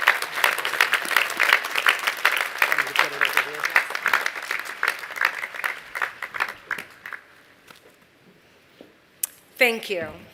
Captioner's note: applause